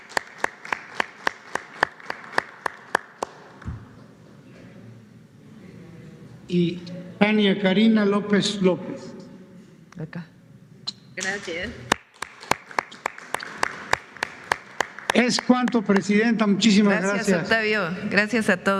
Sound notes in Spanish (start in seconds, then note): 2.3 aplausos; 13.7 aplausos